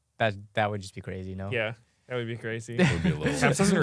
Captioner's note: laughs